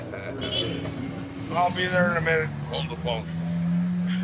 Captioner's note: car Honking